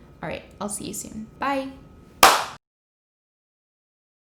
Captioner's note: claps